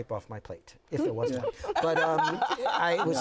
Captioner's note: laughing